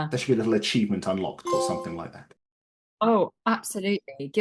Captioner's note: Playstation trophy sound effect